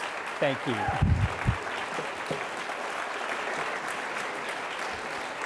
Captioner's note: audience applauding